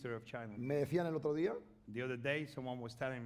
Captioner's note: speaking spanish